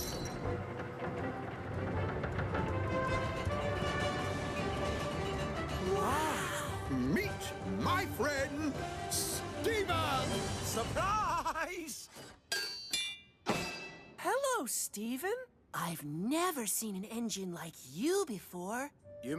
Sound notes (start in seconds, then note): 12.4 clink!